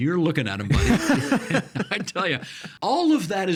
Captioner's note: laughing